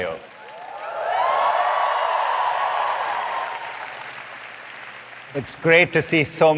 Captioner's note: applause